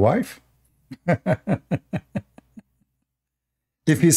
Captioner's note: Ketawa